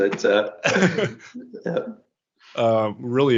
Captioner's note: laughter